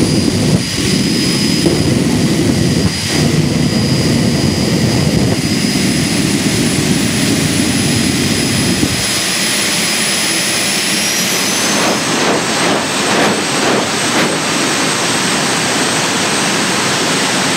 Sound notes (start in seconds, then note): 11.9 pop, pop, pop